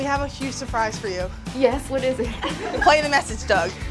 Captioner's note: laughs